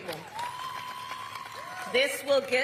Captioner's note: applause